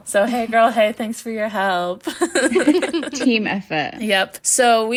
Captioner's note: laughing